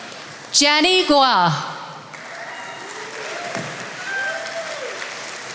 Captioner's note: attendees applauding